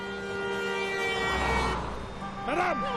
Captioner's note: cars honking